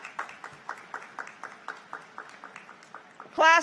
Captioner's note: applause